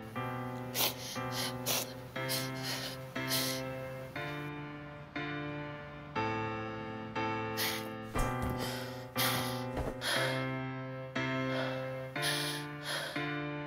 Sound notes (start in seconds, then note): 0.6 sobbing; 7.5 heavy breathing